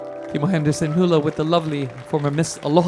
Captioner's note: audience applauding